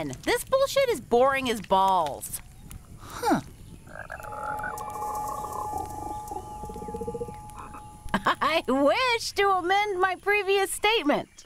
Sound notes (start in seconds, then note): 3.8 frog croaking; 8.1 laughing